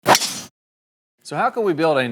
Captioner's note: golf ball cracks